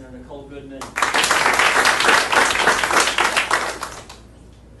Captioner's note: audience applauding